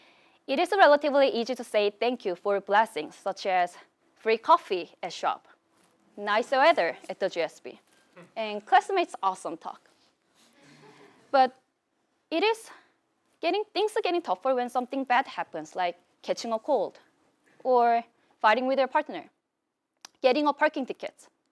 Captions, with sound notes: It is relatively easy to say thank you for blessings, such as free coffee at the shop, nice weather at the a classmate's awesome talk. >> [LAUGH] >> But things are getting tougher when something bad things happen, like catching a cold or fighting with their partner, getting a parking tickets.